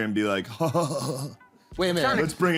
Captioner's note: laughs